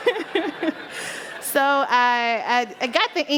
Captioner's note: laughter